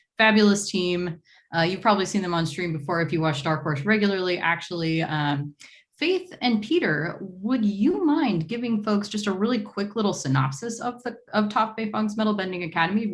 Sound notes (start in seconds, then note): none